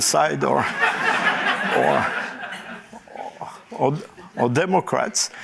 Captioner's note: laughter